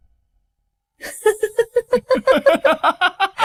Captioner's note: sinister laughter